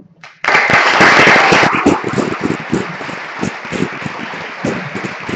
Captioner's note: applause